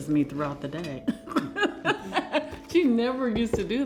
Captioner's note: laughing